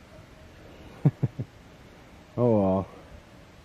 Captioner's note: laughter